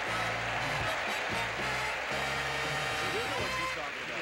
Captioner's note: audience applauding